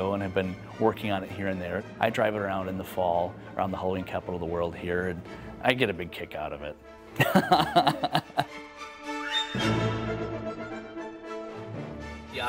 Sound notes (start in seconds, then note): 7.2 laughs; 8.9 dramatic music